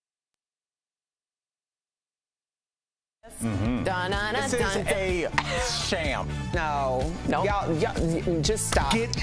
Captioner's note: laughter